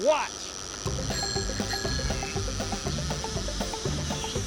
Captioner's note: bicycle bell ringing, reel whirring